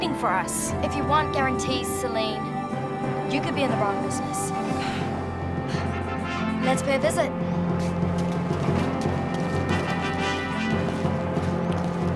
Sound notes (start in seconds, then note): 4.5 exhales; 4.5 sighs